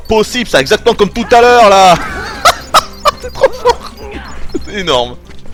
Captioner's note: laughs